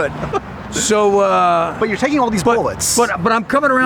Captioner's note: laughing